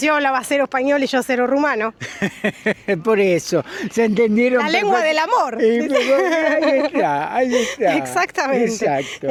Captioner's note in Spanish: risas